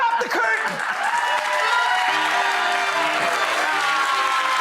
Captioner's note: audience applauds